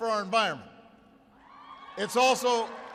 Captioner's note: applause